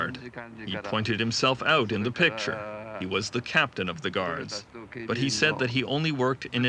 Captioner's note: speaking in foreign language